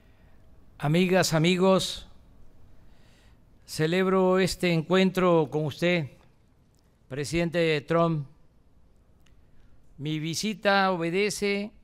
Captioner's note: speaks in Spanish